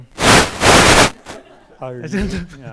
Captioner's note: white noise; students laughing